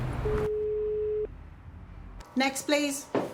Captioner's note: phone beeping